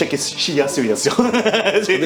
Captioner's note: laughs